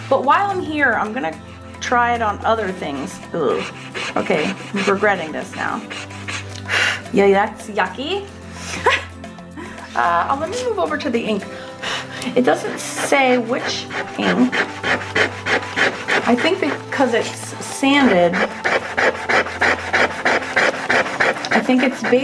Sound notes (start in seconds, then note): 6.6 blows; 12.0 blows; 14.6 eraser rubbing; 18.5 eraser rubbing